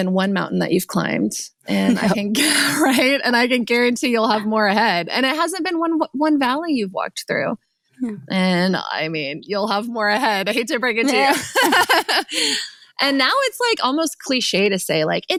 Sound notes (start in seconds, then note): 1.7 laughing; 11.0 laughing